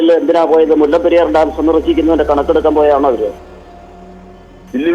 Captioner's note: sarcastically